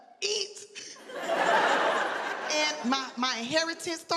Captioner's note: audience laughing